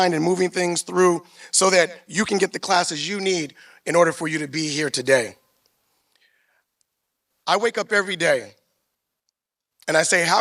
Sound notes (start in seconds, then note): none